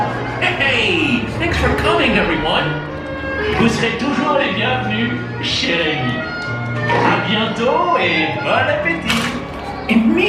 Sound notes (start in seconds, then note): 3.2 foreign language